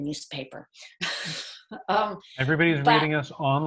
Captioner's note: laughing